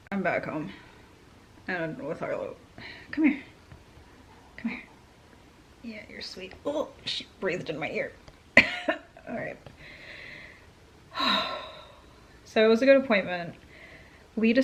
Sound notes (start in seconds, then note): 8.6 cough